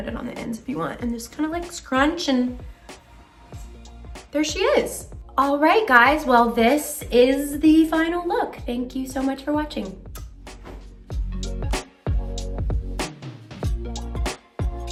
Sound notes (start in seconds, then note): 10.1 kisses; 11.5 upbeat ambient music